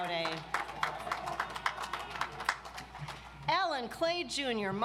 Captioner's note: audience applauds